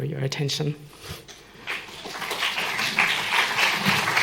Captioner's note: applause